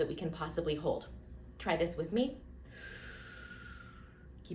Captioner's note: inhaling